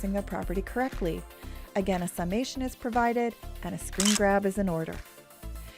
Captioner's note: camera shutter sound